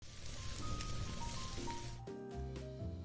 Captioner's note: sizzling sound